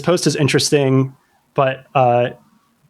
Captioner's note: uh